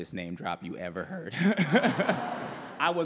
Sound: laughter

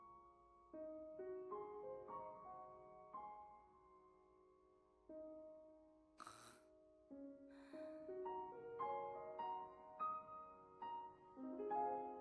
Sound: exhales

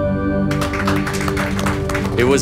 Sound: clapping

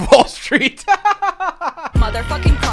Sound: laughing

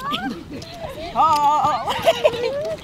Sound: laughs

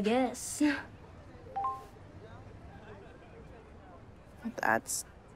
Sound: phone chimes

